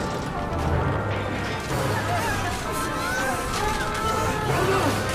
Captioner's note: all screaming